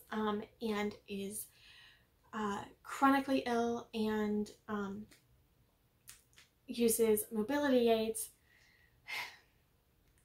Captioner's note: sigh